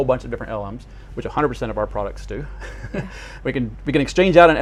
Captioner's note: chuckles